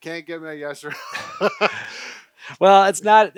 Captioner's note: laughing